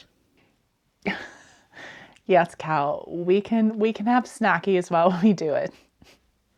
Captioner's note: laughter